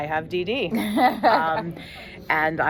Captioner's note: laughs